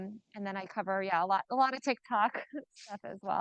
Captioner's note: chuckles